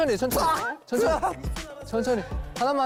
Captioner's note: spits